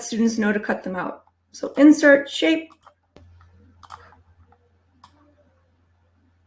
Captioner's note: mouse clicking